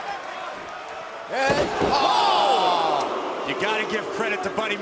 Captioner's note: crowd cheering